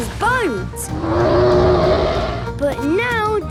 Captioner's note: loud roar